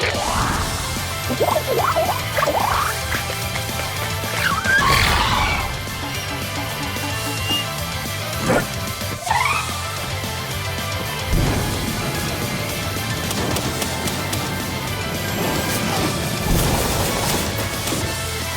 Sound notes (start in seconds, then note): 0.9 exciting music; 5.0 screeches